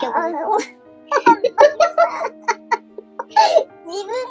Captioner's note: laughs